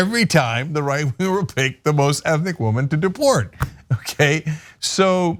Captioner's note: laugh